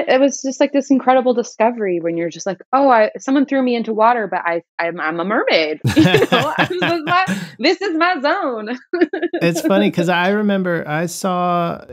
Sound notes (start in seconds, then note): 5.8 laughter